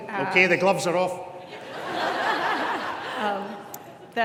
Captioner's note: audience laughs